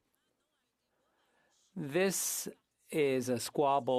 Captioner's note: speaking French